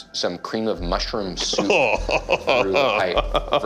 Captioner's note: man laughing